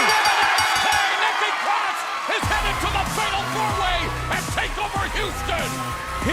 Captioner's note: bell ringing